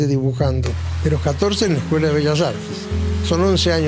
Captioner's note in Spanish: soplete